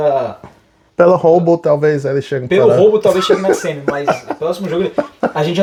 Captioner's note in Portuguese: risadas